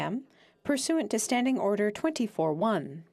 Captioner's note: speaking French